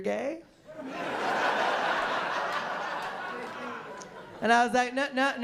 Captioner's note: laughter